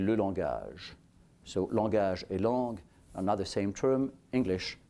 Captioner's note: french